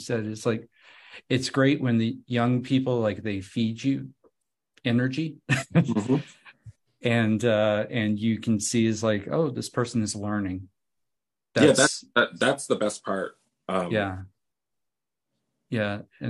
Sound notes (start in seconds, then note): 5.5 laughs